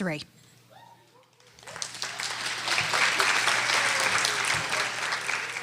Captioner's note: audience applauding